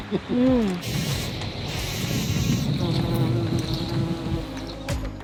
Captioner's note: laughing; bees buzzing